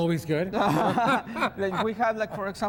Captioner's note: both men laugh